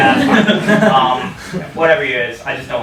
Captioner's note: audience laughs